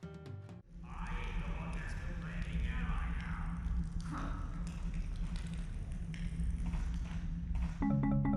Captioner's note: guards' chatter in the distance, quiet crackling of a stove